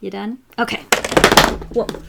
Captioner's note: mad clattering and tapping